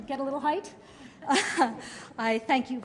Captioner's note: laughter